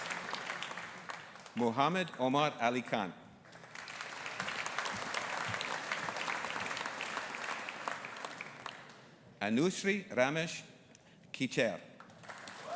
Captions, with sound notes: Muhammad Omer Ali Khan. (AUDIENCE APPLAUDING) Anushree Ramesh Kichare.